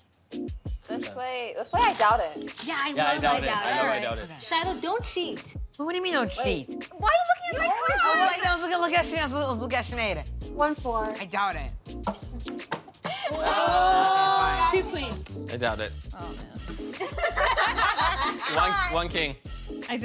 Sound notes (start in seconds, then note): 17.0 laughter